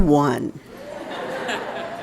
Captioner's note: laughter